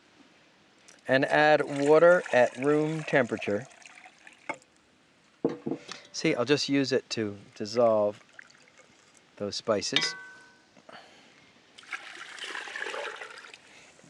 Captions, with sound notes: and add water at room temperature. See I'll just use it to dissolve those spices. (water pouring)